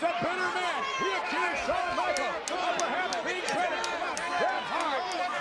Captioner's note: speaks faintly